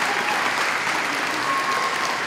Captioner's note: applause